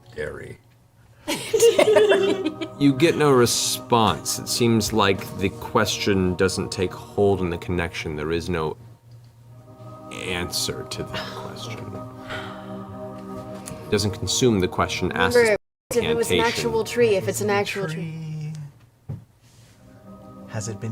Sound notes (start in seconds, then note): 1.3 laughs